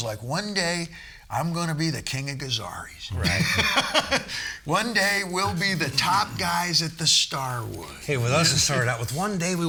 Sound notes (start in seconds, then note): 3.2 laughing